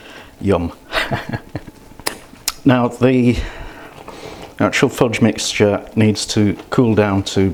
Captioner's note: laughs